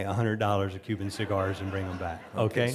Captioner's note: audience laughing